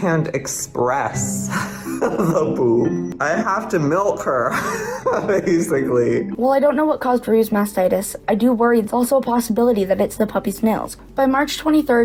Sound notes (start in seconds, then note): 1.5 giggling; 4.3 laughter